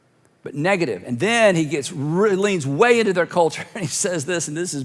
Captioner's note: chuckles